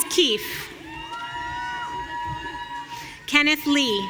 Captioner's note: audience cheering